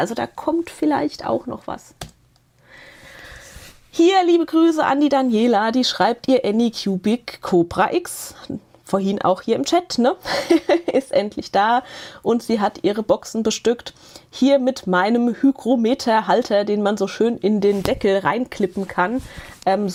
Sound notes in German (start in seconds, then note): 10.2 Gelächter